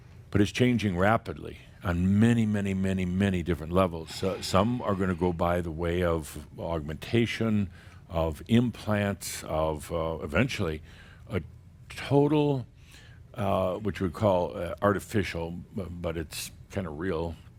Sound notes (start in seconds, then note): none